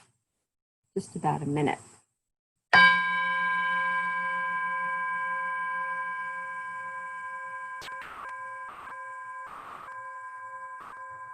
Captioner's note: bell Rings